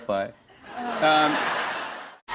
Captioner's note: laughter